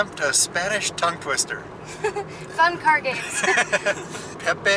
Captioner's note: laughter